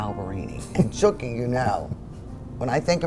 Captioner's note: chuckles